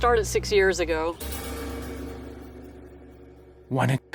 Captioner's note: pipes clanging